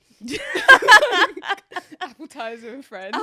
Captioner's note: both laughing